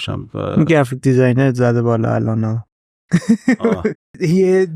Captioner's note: laughs